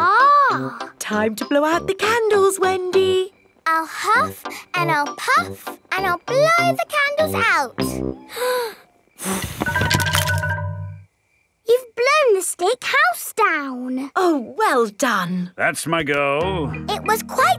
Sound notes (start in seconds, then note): 9.2 blowing